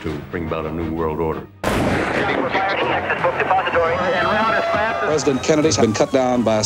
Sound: gunshot

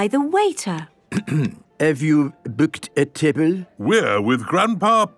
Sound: clears throat

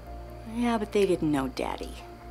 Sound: none

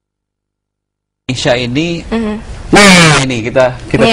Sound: non-english speech

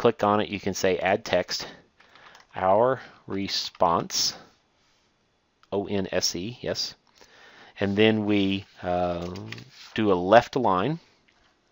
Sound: click

